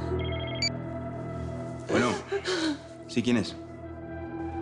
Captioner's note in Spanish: Suena el celular